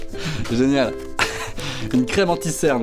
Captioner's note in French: rire